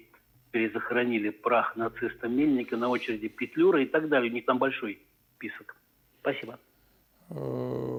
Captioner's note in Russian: стон